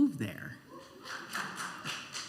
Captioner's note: scattered applause and cheers